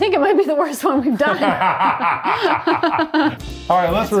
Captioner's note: both laughing